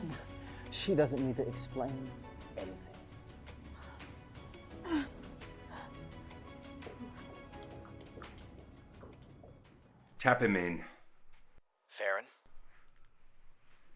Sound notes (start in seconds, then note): 0.0 Abby sighing; 4.6 Abby sighing; 4.7 dramatic music continues